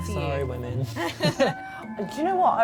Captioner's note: laughing